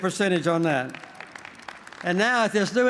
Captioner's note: applause